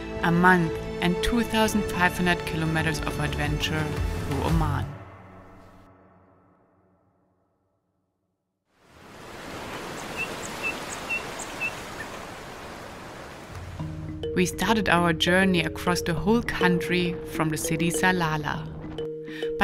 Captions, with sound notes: A month and 2,500 kilometers of adventure through Oman. (waves crashing) (birds tweeting) We started our journey across the whole country from the city Salalah.